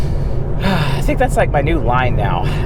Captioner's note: sighs